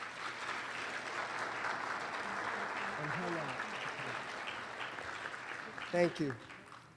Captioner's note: applause